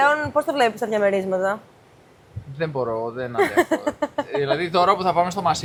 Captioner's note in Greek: γέλια